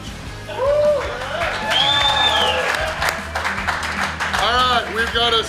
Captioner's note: audience cheering